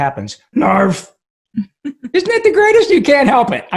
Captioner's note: laughing